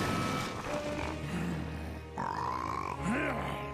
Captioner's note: growling